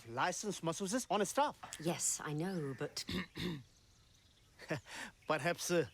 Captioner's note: coughing